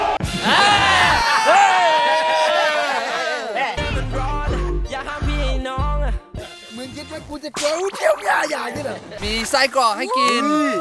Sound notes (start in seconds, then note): 0.0 cheers; 7.9 mockingly and sarcastically